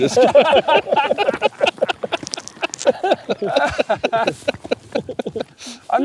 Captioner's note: laughter